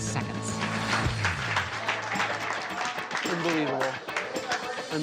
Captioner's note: applause